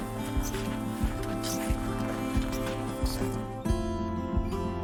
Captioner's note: skis scraping on snow